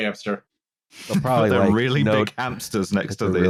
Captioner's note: laughs